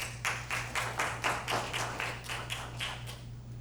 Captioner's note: applause